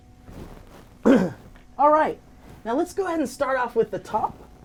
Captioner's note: clears throat